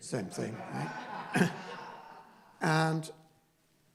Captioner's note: laughing